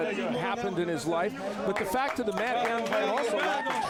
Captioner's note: applause